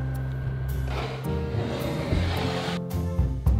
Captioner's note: bowl sliding